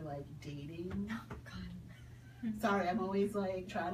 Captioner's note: whispers